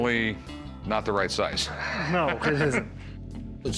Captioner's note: laughs